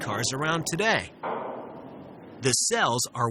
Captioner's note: metal clanging